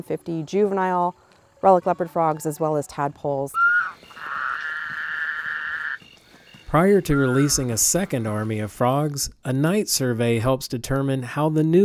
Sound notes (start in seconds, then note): 3.5 frogs croaking